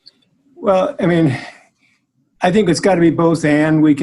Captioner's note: sighing